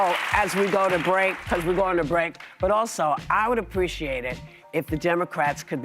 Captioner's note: applause